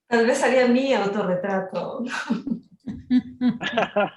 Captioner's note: speaking Spanish; everyone laughing